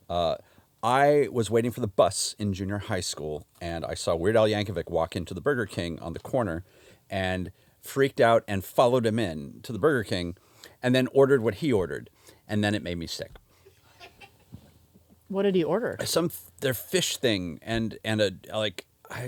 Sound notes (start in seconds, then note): 13.6 laughs